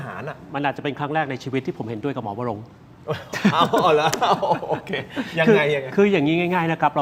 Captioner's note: laughter